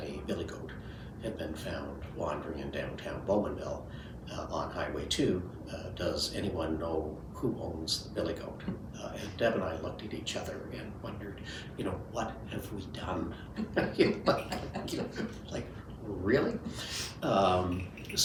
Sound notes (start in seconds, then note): 13.4 laughing